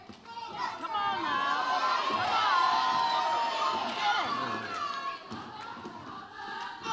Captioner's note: audience applauds and cheers